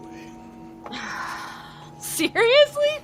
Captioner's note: Steph sighing